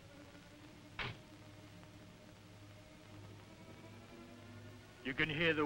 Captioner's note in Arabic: باب السيارة يغلق بقوة